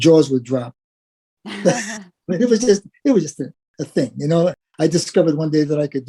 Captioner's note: laugh